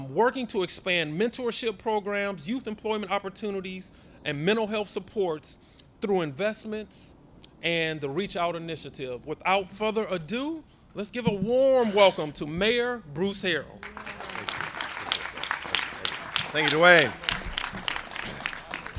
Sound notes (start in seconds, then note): 13.8 applause